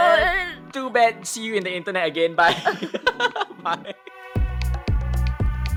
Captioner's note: chuckles